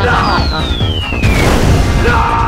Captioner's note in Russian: звук огня